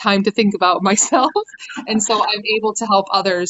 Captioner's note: chuckling